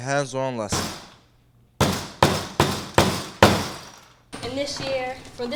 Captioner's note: hammer hammering